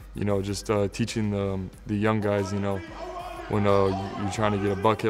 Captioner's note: play shouts